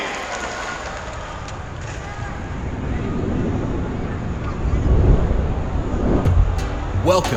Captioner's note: rumbling sound effects